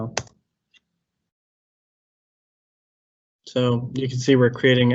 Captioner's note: mouse clicks